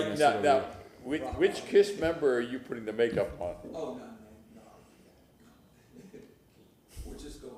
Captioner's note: laughter